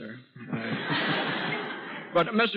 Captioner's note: audience laughs